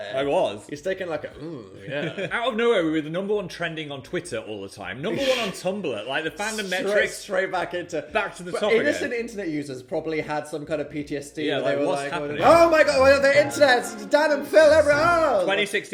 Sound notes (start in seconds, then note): 1.4 chuckling; 5.2 chuckling